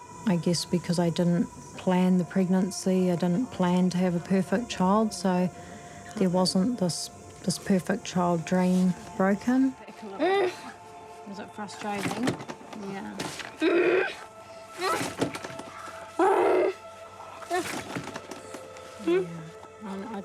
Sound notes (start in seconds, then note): 10.2 grunts; 13.6 grunts; 14.6 groans; 16.1 yelps; 19.0 whimpers